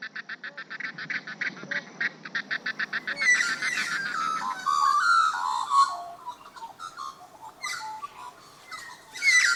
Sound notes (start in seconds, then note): 6.3 birds calls